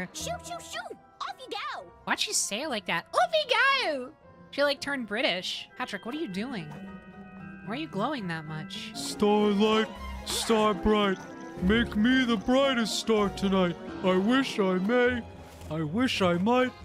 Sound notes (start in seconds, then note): 3.0 british Accent; 8.9 Patrick Voice